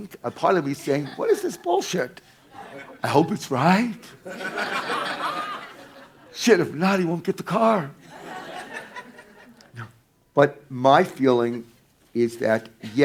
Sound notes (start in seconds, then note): 2.4 audience laughing; 8.0 audience laughing